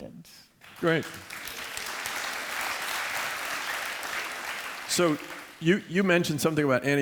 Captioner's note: applause